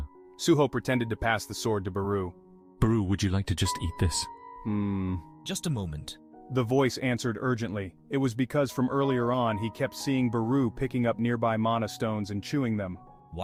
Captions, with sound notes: --...-- Suho pretended to pass the sword to Beru. "Beru, would you like to just eat this?" [Khmmm.] --Just a moment.-- The voice answered urgently. It was because from earlier on, he kept seeing Beru picking up nearby mana stones and chewing them.